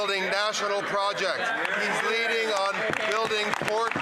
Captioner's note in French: voix de l'interprète